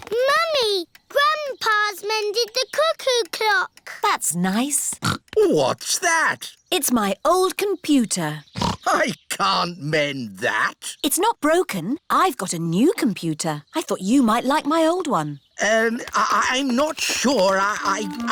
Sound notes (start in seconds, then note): 0.1 snorts; 8.5 snorts